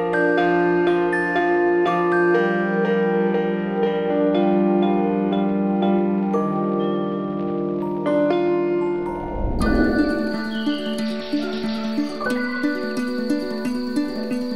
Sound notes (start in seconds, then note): 9.0 whoosh